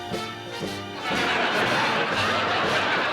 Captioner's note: laughter